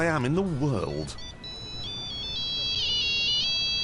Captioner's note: phone rings